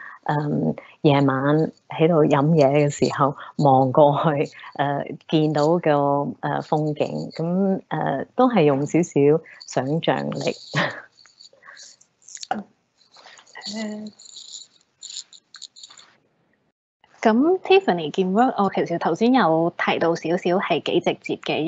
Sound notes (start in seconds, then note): 10.5 chuckles; 17.5 Cantonese